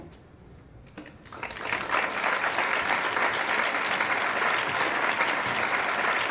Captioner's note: audience applauding